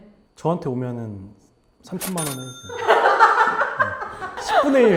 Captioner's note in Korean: 웃음